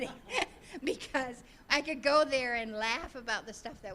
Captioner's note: all laughing